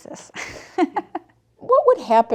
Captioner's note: laughs